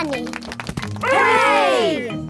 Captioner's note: crowd applauding